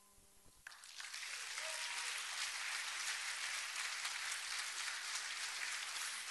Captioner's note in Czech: potlesk